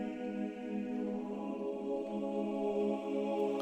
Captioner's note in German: none